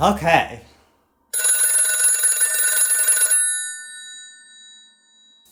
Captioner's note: telephone ringing